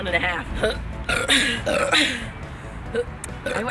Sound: burp; burp Burrrp

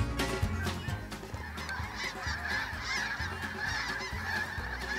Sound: light country music; birds calling

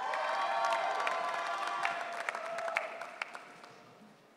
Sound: audience cheering

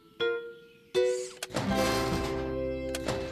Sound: click!

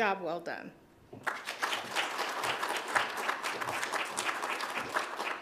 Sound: audience claps

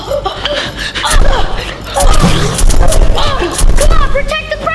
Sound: pants; fighting sound

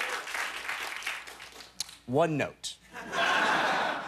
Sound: laughter

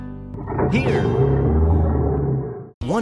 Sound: motor rolls over

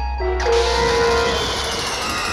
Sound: SFX: Lighting; screaming

